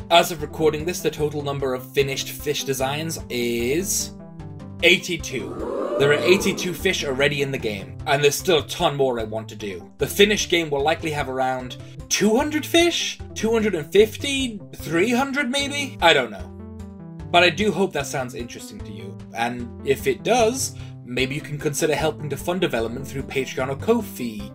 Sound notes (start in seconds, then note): 5.4 crowd ooing sound effect